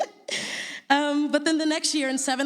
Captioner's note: laughs